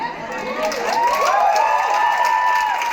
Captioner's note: cheering and applause